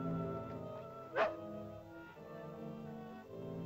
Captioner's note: soft ominous music; dog barks; soft ominous music